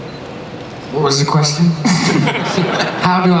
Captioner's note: laughter